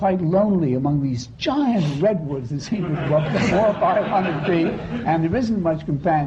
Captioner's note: laughter